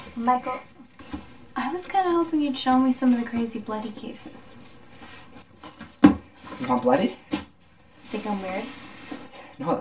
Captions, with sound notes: - Michael, I was kind of hoping you'd show me some of the crazy, bloody cases. [Rustling sound] [Thump] - You want bloody? - You think I'm weird?